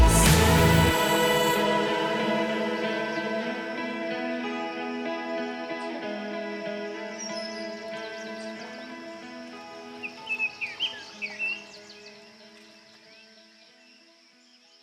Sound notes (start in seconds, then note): 2.6 relaxing guitar music; 7.0 birds chirping